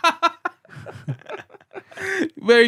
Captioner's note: laughter